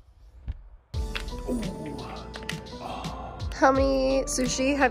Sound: cracks fingers

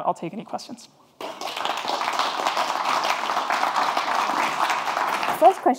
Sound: audience applauding

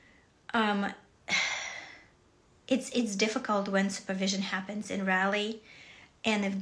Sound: sighs

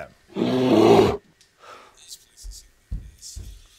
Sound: roaring

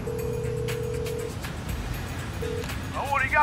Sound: phone ringing tone

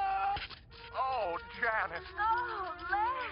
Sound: TV audio

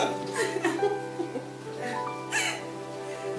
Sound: both laugh

